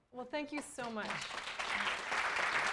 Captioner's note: applause